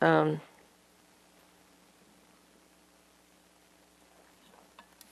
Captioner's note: pauses 12 seconds